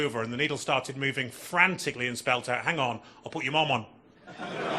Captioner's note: audience laughing